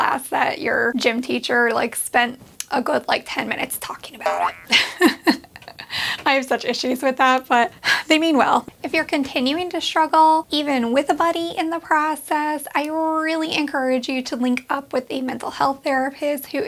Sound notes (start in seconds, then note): 4.2 laughs